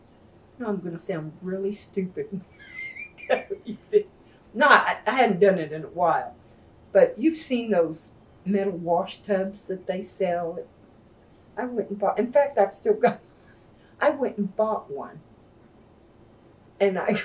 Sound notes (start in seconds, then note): 2.4 laughs